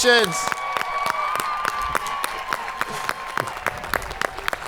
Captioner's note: audience cheering